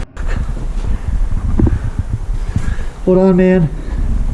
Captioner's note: heavy breathing